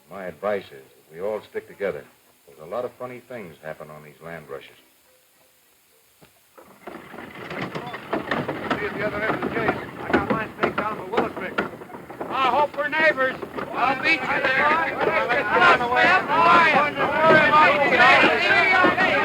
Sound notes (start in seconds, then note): 7.5 wagon wheels rumbling; 14.8 crowd talking; 16.5 wagon wheels rumbling; 19.0 men yelling